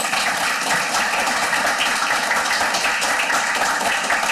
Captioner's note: audience applauding